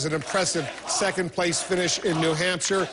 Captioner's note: applause